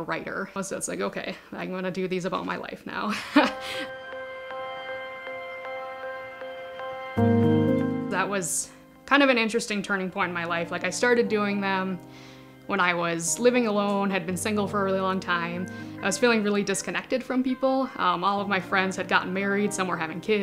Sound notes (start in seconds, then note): 3.1 laughs; 3.2 mellow music